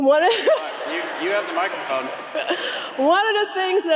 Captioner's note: audience laughs